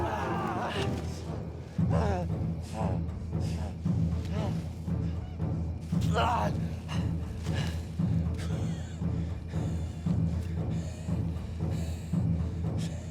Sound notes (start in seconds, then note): 3.6 Thor panting; 6.1 Thor grunts; 9.3 dramatic music continues